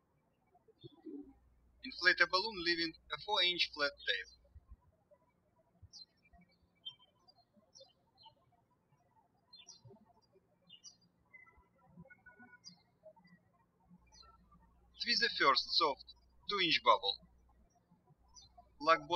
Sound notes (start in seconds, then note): 0.0 birds chirping; 5.4 birds chirping